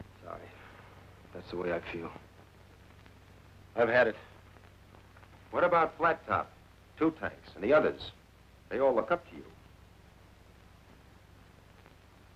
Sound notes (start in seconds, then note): none